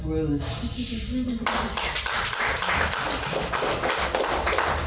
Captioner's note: audience clapping